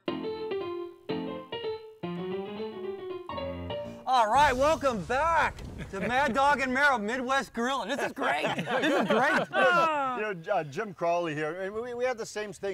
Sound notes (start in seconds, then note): 0.0 upbeat piano music; 7.8 all laughing